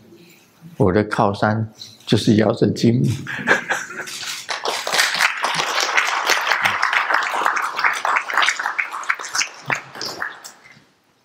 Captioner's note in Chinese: 眾鼓掌